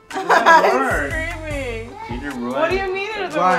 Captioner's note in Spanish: Karina riendo